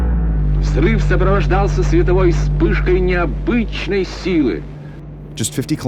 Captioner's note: person speaking in foreign language